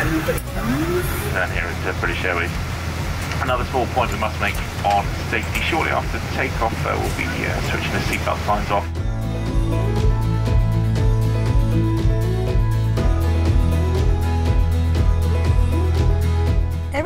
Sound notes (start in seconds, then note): 1.2 pilot speaking over intercom